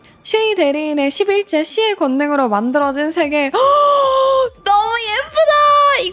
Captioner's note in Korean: 헉 소리